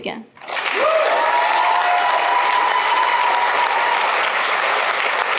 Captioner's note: cheers, applause